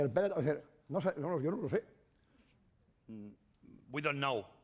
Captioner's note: speaking spanish